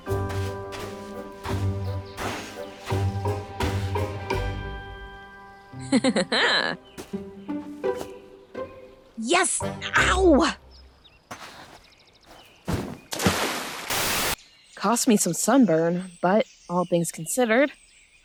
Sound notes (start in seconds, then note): 5.8 laughs